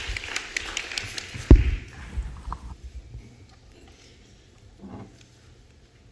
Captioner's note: applause